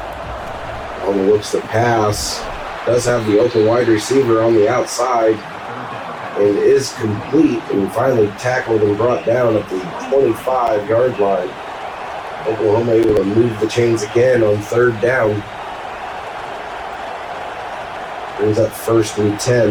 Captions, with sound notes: On the works that pass, does have the open wide receiver on the outside. It is complete and we finally tackled and brought down at the 45 yard line. Oklahoma will remove the chains again on third down. [Crowd Noises] There's that first and ten.